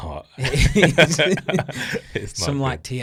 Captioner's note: both laughing